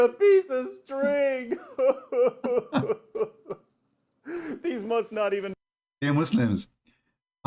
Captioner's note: Ketawa